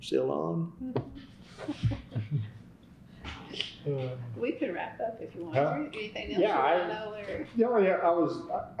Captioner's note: laughter